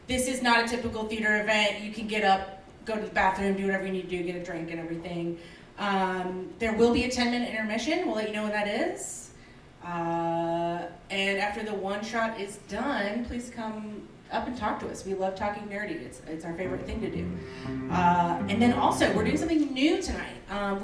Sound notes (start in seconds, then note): none